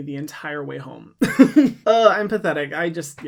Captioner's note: laughs